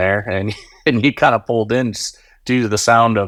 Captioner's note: laughing